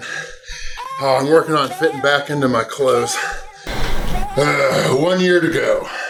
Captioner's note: grunts